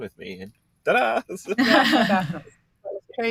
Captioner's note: chuckling